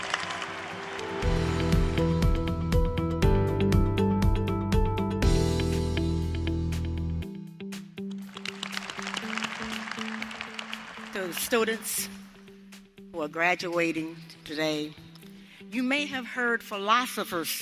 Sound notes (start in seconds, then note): 1.2 cheers and applause; 8.4 applause